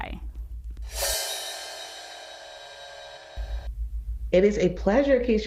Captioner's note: screen whooshing